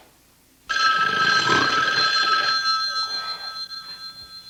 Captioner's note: phone ringing